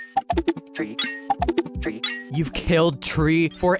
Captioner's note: beeping